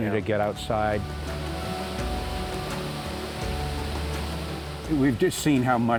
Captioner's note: rushing water